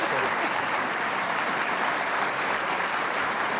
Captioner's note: applause